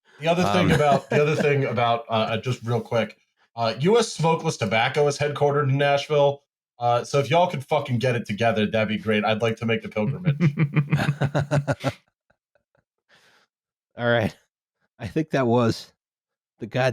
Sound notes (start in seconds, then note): 10.0 laughter